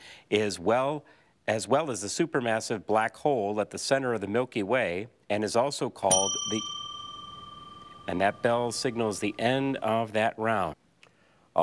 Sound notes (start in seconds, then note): 6.1 bell ringing